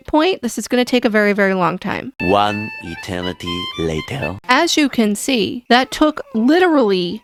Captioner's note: french accented male narrator voice